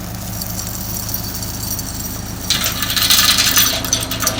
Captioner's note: chain rattling